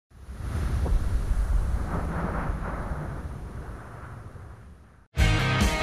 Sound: wind noise

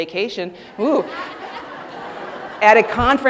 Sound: audience laughing

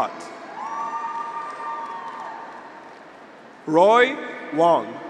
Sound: graduates cheer; audience applauds

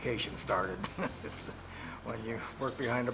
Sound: light laughter

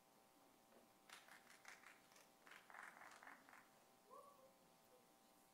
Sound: audience clapping

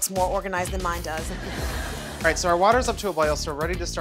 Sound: audience laughing

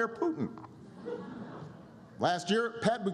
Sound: laughter

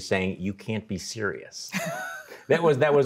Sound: both laughing

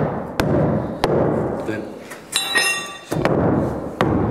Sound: clanking

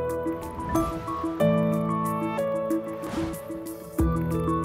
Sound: graphics whooshing

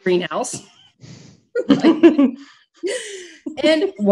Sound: laughs

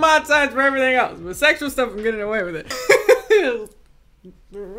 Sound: laughs

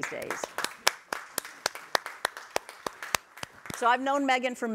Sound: group applauding

